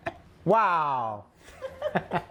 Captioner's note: laughs